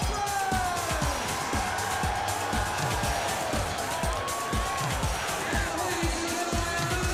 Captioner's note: crowd cheering